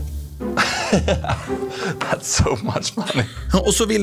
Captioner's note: nervous laughter